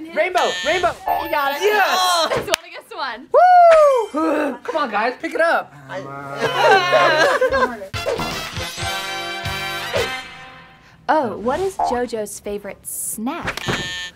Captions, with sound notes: - Rainbow! Rainbow! - You got it. It's one against one. Whoo! Come on guys, pick it up. [screaming] Oh, what is JoJo's favorite snack?